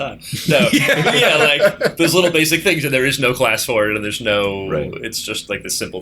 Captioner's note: laughter